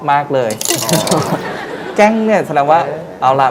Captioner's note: the sound of coins hitting a metal bowl